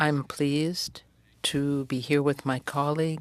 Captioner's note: speaking french